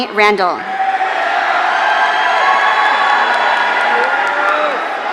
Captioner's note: audience cheering